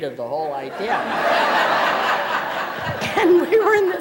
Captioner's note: laughter